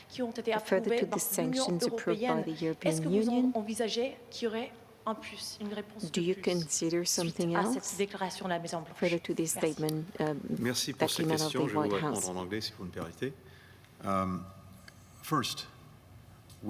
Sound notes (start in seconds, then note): 13.7 in French